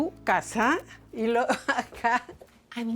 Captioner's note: laughs